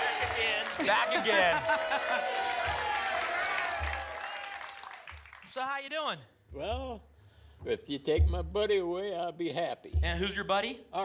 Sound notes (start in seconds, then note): 0.7 laughs; 3.1 applause and cheering cont